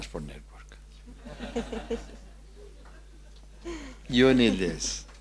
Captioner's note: audience laughs